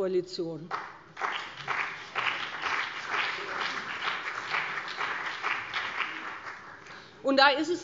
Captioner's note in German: Beifall BÜNDNIS 90/DIE GRÜNEN und vereinzelt CDU